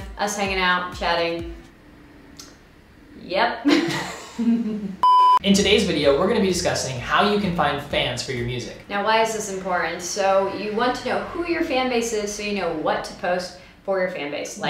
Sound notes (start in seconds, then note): 3.6 laughing; 5.0 beep